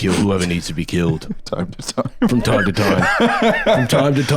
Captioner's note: laughs